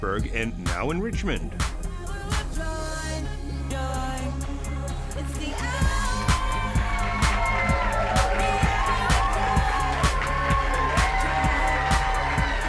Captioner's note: applause